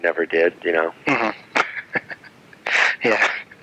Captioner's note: laughs